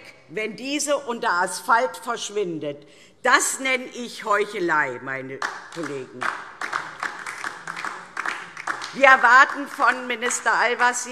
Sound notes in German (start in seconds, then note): 5.4 Beifall DIE LINKE